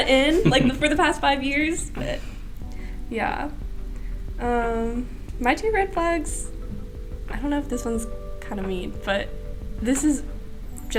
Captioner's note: laughter